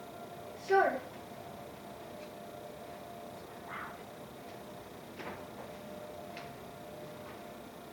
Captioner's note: siren